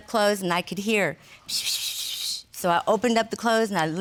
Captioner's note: mimics whispering